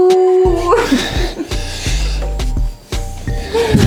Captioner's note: the sound of animal